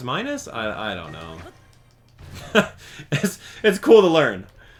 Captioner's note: chuckle